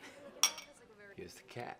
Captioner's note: glasses klink